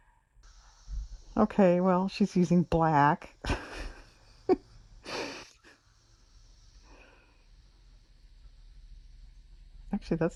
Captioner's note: laughs